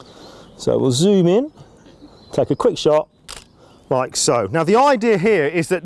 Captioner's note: camera click